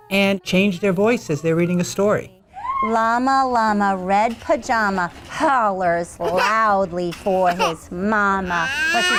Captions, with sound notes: and change their voices as they're reading a story. [Teacher Reads Expressively] Llama llama red pajama hollers loudly for his mama.